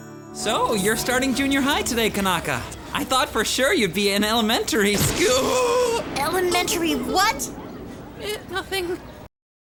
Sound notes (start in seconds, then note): 5.3 groans